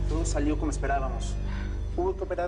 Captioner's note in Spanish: none